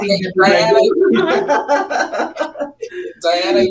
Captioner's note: group laughs